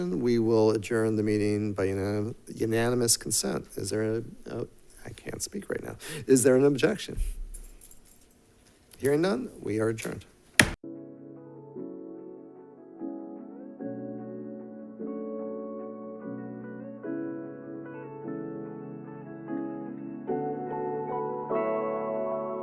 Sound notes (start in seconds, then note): 10.5 gavel striking; 11.5 soft music; 19.3 soft music continues